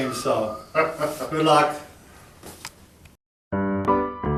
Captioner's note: laughing; playful piano music